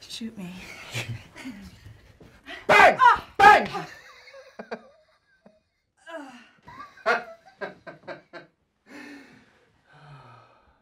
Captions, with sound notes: - Shoot me. (laughs) - Bang! Bang! (laughing)